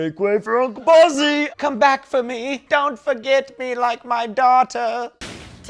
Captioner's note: old lady voice